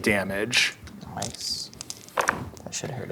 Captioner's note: dice rolling; dice rattling